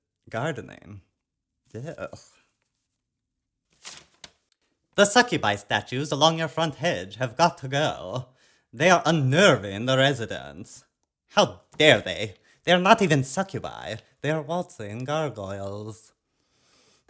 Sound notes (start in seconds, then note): none